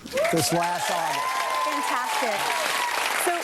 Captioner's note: audience clapping